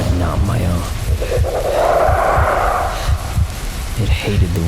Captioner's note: heart beating loudly